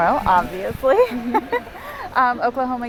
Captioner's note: laughs